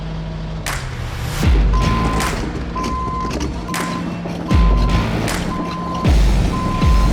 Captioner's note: upbeat music; vehicle humming; machinery clanking; vehicle beeping